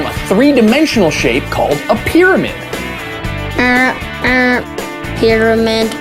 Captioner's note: in a robot voice